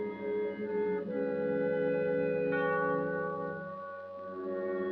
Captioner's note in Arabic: none